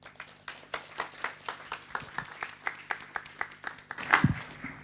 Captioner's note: audience clapping